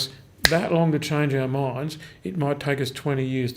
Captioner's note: snaps fingers